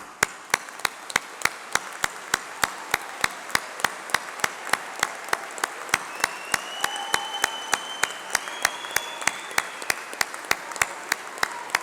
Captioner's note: applause